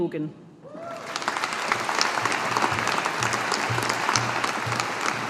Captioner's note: audience applauding